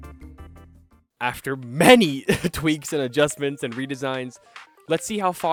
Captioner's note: giggles